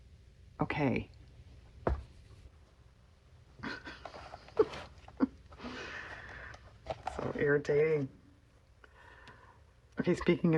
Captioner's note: laughs